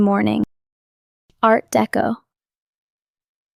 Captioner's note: pause